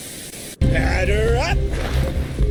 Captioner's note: static